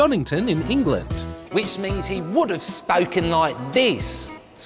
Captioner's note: english accent